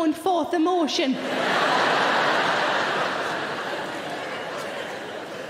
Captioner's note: audience laughing